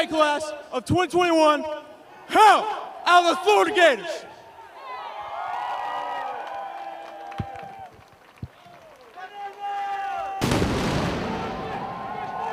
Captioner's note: cannon firing